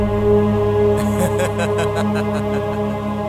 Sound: laughs

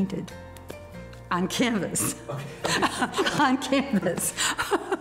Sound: laughing

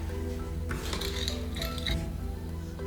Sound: SFX: Stirring ingredients

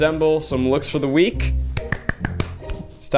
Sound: claps

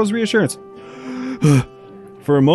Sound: takes a deep breath

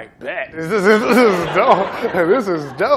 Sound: laughter

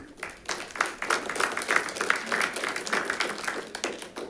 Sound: audience applauds

